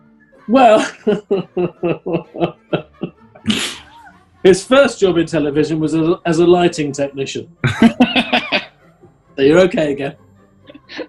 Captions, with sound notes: Well... [CHUCKLING] His first job in television was as a lighting technician. [LAUGHING] Oh, you're okay again: